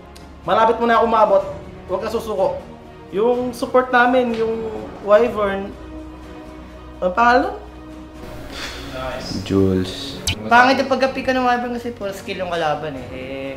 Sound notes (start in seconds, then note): 8.5 sigh